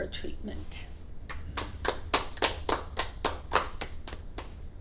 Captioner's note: patients clap